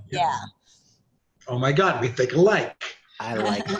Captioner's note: laughs